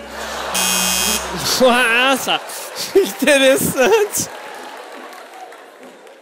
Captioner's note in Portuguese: campainha